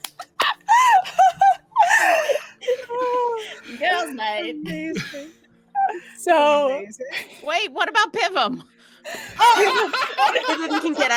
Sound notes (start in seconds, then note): 0.0 hand claps; 0.1 all laughing; 9.0 all laughing